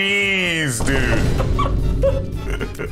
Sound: three more vine booms; both laughing

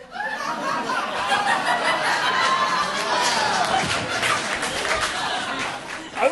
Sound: audience laughing

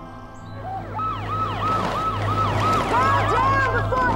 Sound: sirens

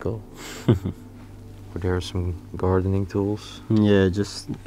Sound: chuckles

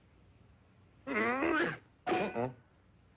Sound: groans

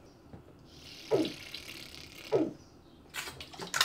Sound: more of the food blowing/fart sound

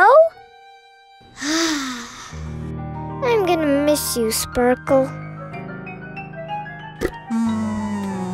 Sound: sighs; buzzing

